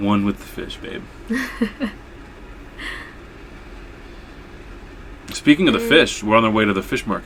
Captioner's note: laughs